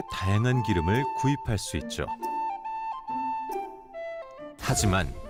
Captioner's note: voiceover